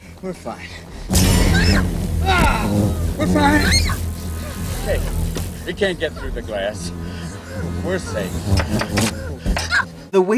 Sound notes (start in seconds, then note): 2.2 children screaming; 8.7 mosquito knocking